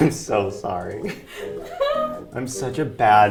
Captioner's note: laughing